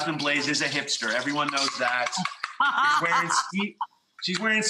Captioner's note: laughs